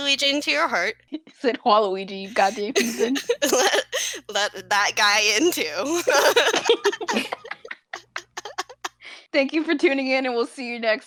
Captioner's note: laughter